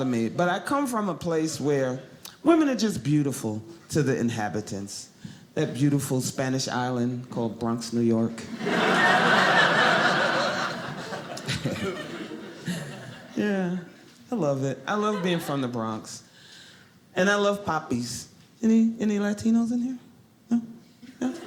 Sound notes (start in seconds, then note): 8.5 audience laughing